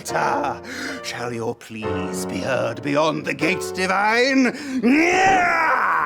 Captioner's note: screams